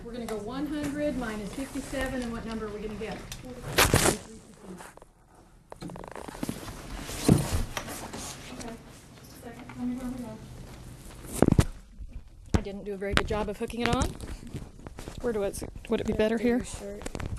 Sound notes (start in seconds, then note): 3.5 microphone rustling; 3.5 student speaking faintly; 17.1 microphone rustling